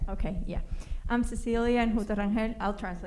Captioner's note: spanish